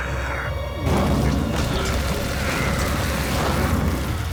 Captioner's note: grunting